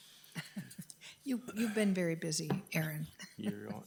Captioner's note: chuckles